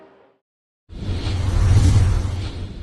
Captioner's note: graphics whooshing